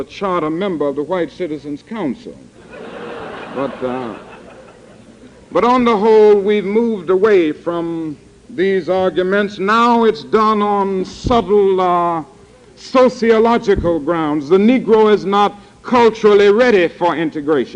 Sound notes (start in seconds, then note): 2.6 laughter